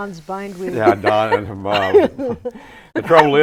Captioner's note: laughing